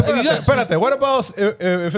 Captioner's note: speaking In Foreign Language